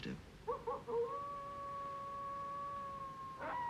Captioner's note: howling; whimpering